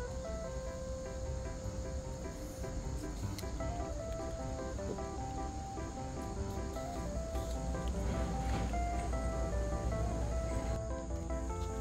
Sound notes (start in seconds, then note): 2.9 apple ASMR